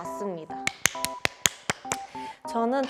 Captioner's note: clap clap clap clap clap